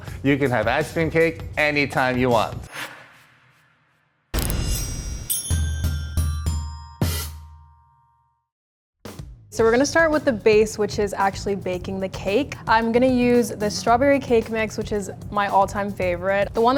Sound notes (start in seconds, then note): 2.8 air whooshes; 4.3 instrument booms; 4.4 chimes tinkling